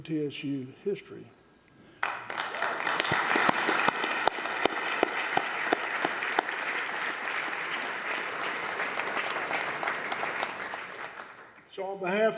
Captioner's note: applause